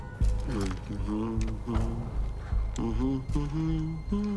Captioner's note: Boyd humming